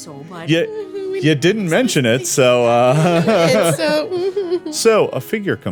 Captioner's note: laughing